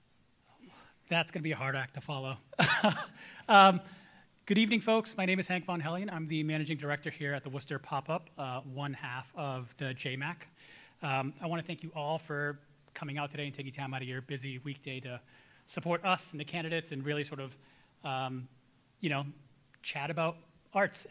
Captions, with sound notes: - That's gonna be a hard act to follow. (chuckles) Good evening, folks. My name is Hank von Hellion. I'm the managing director here at the Worcester PopUp, one half of the JMAC. I wanna thank you all for coming out today and taking time outta your busy weekday to support us and the candidates, and really sort of chat about arts